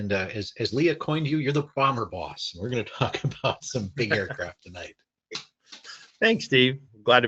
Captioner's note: chuckles